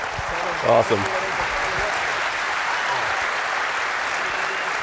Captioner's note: applause